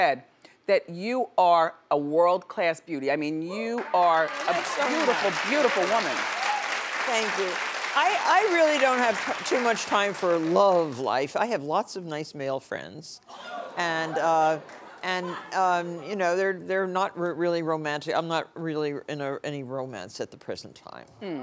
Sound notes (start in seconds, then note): 3.6 audience clapping; 13.4 audience laughing